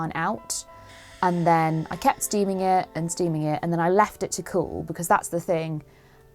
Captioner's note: steamer noises